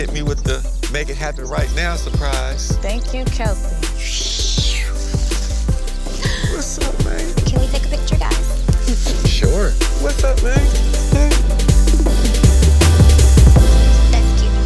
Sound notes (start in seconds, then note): 4.2 exclaiming; 11.3 upbeat music